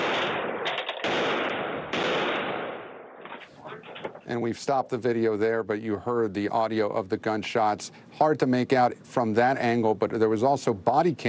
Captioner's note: gunfire